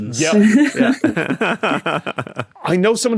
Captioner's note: laugh